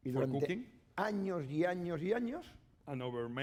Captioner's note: speaking spanish